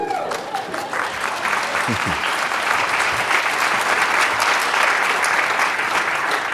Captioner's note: applause